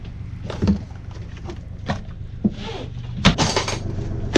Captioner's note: plastic shuffling